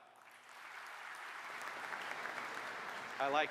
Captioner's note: applause